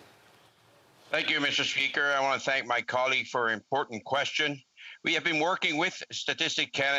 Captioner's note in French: voix de l'interprète